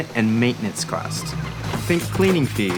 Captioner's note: air whooshing